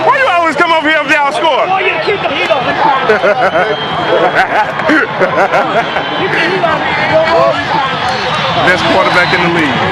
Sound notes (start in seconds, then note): 2.8 laughs